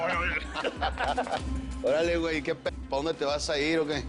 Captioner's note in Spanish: Risas